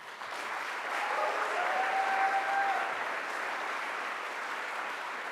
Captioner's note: audience applauds